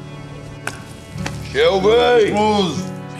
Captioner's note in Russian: пьяные войсы